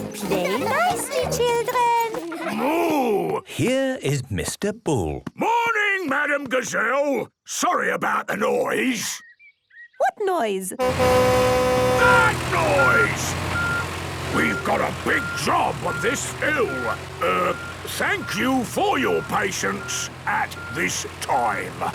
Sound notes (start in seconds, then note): 11.4 tractor noise; 12.3 screaming